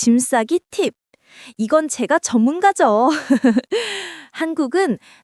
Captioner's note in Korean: 웃음